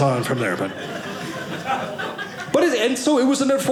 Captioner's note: audience laughing